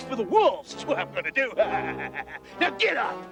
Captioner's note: laughs maniacally